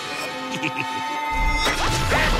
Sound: cackling

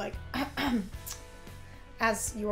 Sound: coughing

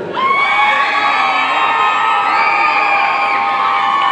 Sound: audience cheering

